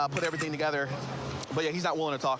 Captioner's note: camera app clicks